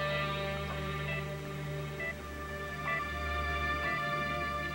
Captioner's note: monitor beeps